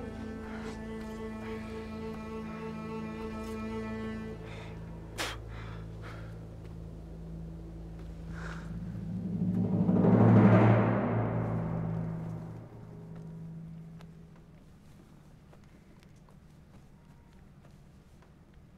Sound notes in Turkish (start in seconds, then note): 5.1 Tükürme sesi; 9.0 Müzik - Vurmalılar; 13.2 Sessizlik